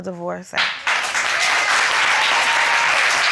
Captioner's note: audience applauding